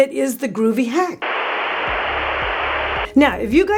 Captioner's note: video buzzing